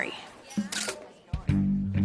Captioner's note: camera shutter sound